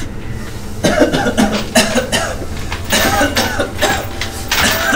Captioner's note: coughing